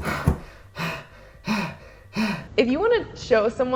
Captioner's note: heavy breathing